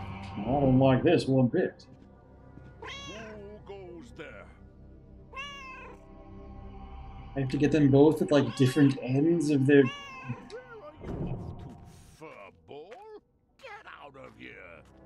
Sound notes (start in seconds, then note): 2.6 Hodge meows; 5.3 Hodge meowing